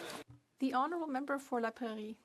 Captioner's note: applause